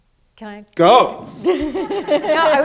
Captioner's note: panelists and audience laugh